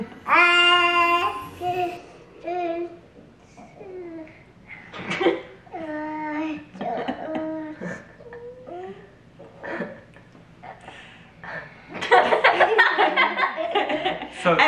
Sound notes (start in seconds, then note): 5.2 small laughs; 12.1 laughing loudly